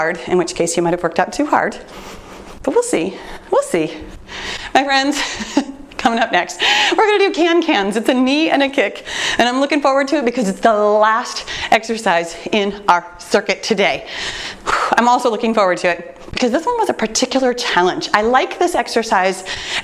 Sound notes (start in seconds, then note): 5.2 chuckles; 14.1 exhales sharply